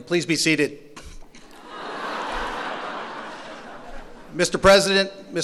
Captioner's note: laughter